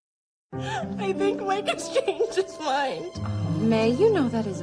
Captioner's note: sobbing